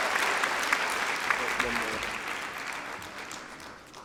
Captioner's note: applause